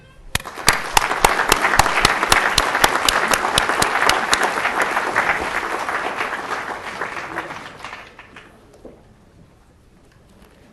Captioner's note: applause